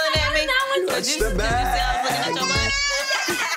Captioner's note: family chattering; family laughing